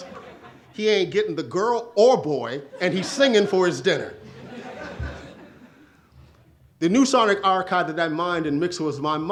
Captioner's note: audience laughs